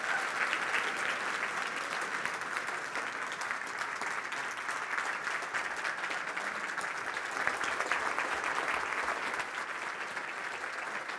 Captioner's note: applause